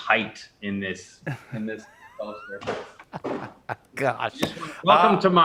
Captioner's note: laughs